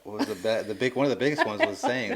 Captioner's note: laughing